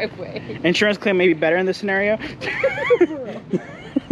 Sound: laughing

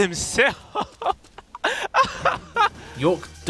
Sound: laughter

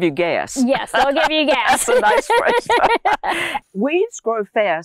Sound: laughs

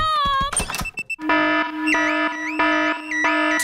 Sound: alarm blaring

